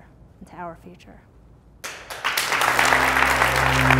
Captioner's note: clapping